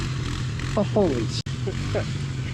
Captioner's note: laughs